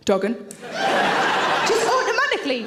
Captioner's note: audience laughs